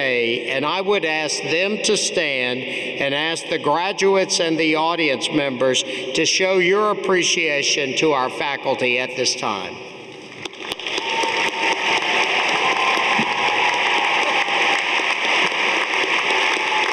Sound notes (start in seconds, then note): 10.4 audience applauding